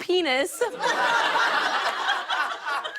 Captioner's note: laughter